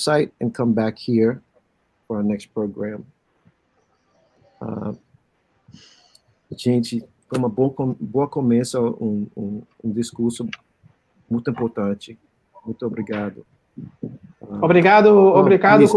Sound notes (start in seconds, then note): 5.1 speaking Portuguese